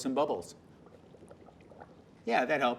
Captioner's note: gurgling